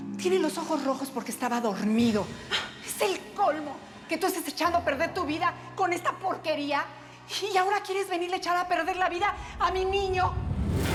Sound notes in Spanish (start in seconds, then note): none